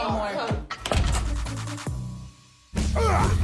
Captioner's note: door closes